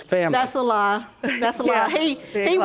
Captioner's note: scoffs